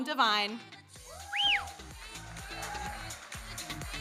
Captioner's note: audience member whistles